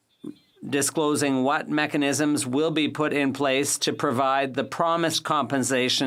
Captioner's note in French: voix de l'interprète